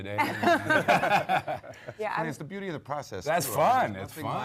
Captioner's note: panel laughs